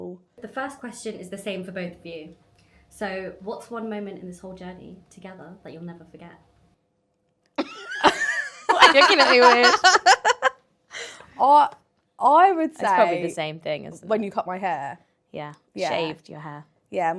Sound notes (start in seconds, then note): 7.6 laughs